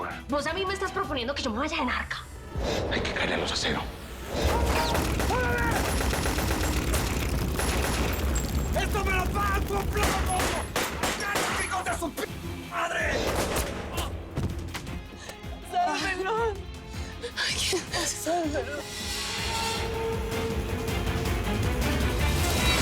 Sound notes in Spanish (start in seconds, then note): 4.3 Disparos; 6.4 Disparos; 13.1 Disparo